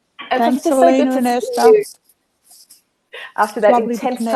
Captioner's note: speaking in unison